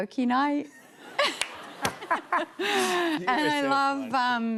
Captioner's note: laughter